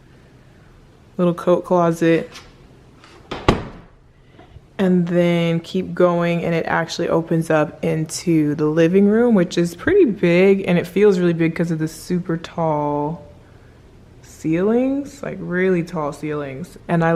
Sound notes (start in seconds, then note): none